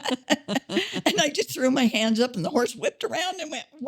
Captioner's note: both laughing